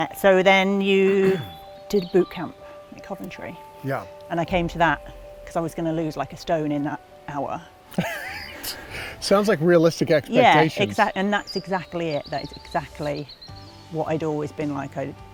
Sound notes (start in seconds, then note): 7.9 laughs